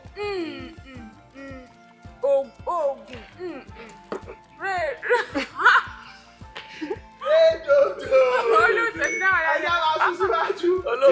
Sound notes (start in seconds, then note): 5.2 laughs